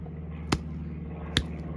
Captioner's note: splat